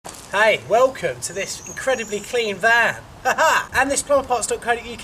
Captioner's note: laughs